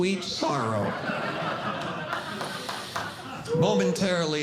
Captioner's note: audience Laughing